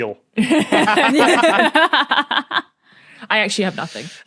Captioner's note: guests laughing